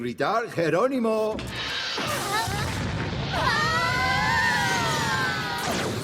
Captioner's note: girls shrieking